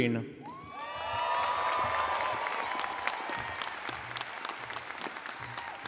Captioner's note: audience cheers and applauds